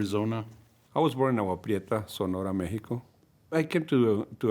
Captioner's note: foreign language